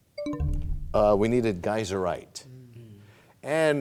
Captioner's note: bell chimes, time expires